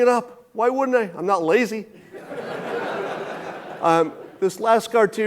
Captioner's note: audience laughing